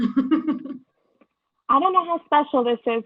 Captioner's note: laugh